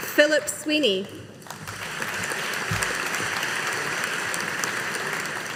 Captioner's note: audience applauding